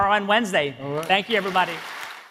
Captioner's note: audience applauding